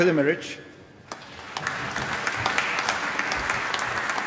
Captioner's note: applause